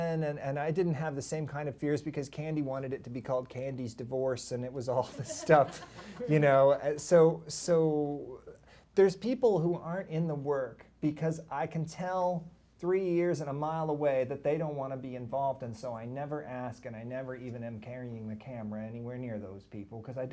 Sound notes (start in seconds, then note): 5.0 laughter